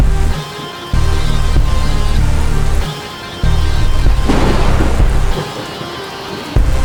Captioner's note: thunder rumbling; rain splashing